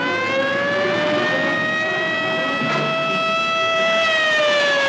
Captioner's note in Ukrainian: сирени кричать